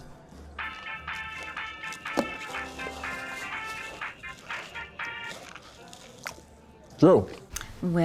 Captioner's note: cell phone rings